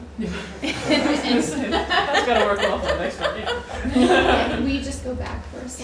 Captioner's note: laughter